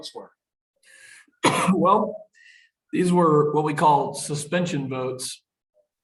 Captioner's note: coughs